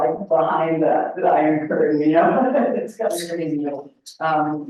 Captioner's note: laughs